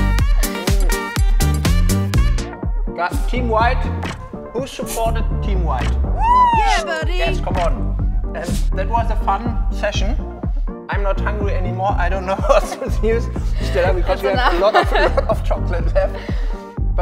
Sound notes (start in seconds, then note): 0.1 laughs loudly; 6.2 loud cheering